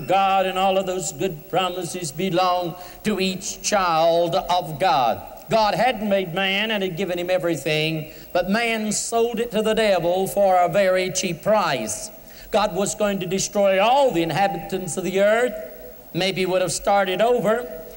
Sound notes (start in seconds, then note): none